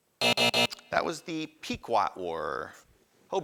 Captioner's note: buzzing